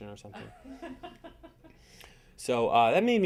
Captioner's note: audience laughing